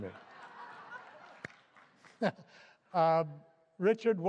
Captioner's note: laughter